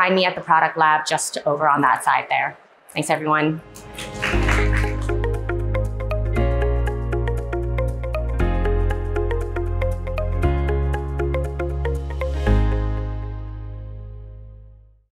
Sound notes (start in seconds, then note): 3.8 audience clapping; 6.1 soft upbeat music